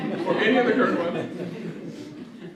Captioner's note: audience laughter